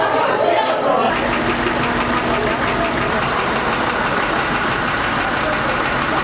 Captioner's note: military jeep and ambulance engine noise